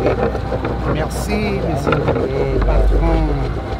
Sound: speaking foreign language

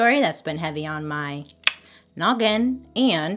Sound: tongue click

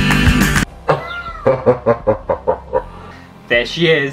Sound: horror Laugh

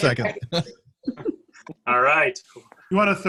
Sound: chuckles

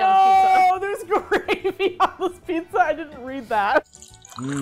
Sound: laughing

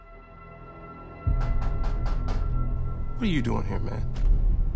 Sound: gentle dramatic music; person knocking

